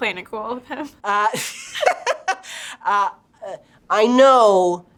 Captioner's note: both laughing